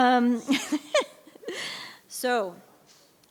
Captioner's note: laughing